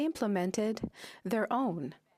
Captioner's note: speaking French